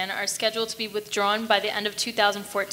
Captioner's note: none